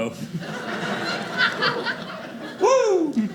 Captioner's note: audience laughing